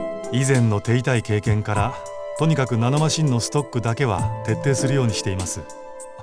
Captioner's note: none